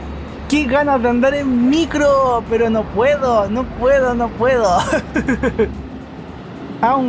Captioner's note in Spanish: risas